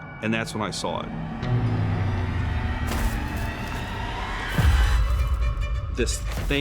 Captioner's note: crunching footsteps